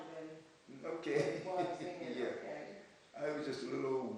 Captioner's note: laughs